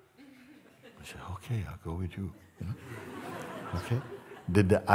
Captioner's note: Lachen